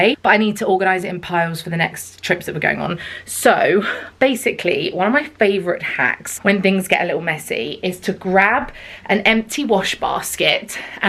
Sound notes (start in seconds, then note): none